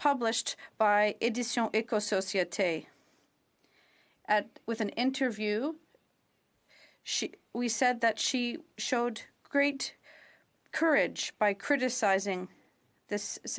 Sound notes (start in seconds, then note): 0.1 speaking French; 5.8 speaking French